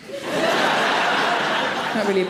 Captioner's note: audience laughing